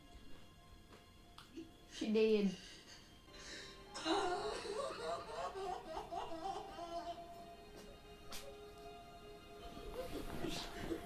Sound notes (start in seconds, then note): 3.9 Ewan Mcgregor sobbing uncontrollably